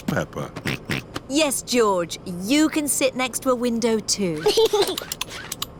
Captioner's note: snorts; giggles